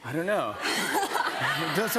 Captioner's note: laughter